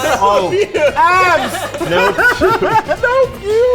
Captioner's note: all laughing